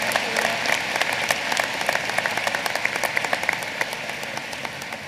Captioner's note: applause